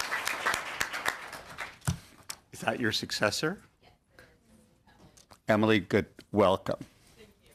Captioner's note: applause